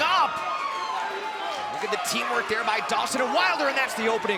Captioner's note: crowd cheering